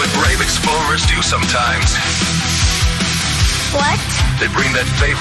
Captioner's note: sniff sniff